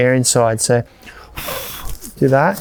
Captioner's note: blows air into the pump sack